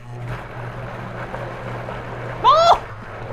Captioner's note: blender whirring